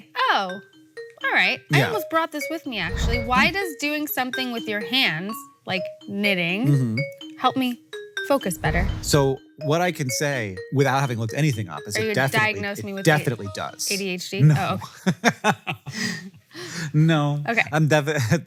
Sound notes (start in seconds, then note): 14.4 laughs